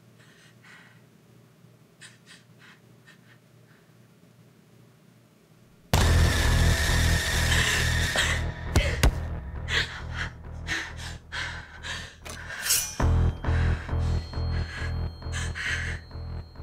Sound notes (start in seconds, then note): 0.1 Jenelle breathing heavily; 5.9 tense sinister music; 10.7 Jenelle breathing heavily; 10.7 tense sinister music